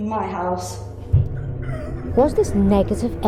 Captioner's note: strangled screeching